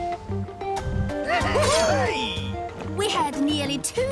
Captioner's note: exclaiming